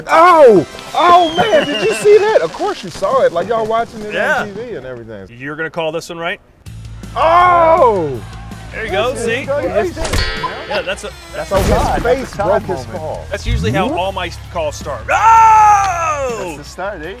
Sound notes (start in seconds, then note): 10.0 bird clock chirping; 15.0 screaming